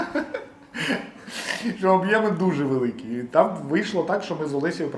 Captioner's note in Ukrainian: сміх